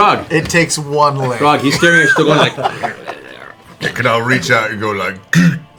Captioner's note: growl; head crushing sound